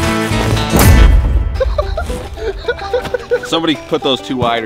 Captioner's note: laughs